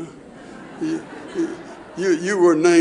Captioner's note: audience laughs